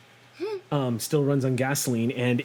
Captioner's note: gasps